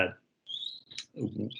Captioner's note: tongue clicks